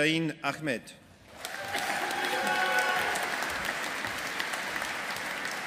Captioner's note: audience applauding